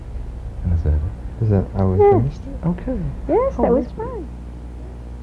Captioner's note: quiet murmuring